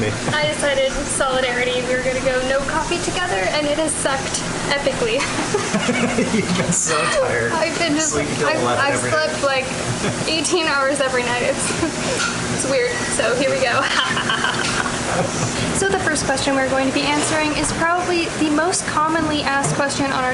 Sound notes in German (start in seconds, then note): 5.1 Lachen